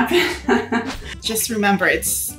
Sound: laughing

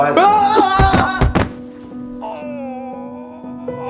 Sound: yelling; groaning

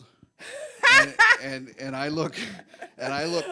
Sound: laughs

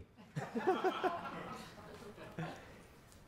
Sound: laughter

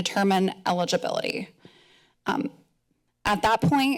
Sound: pause

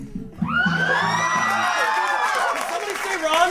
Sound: applause, cheers

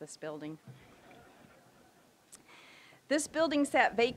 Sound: audience chuckling

